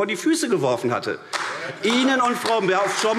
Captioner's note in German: Beifall AfD - Zuruf AfD: Hört, hört!